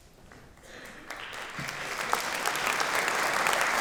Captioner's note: applause